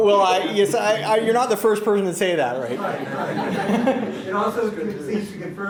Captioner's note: laughter